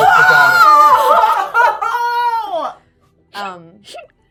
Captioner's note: shocked yelling